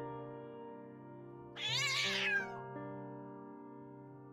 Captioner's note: wailing